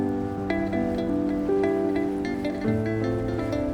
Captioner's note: breeze blowing